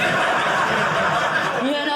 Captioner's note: audience laughing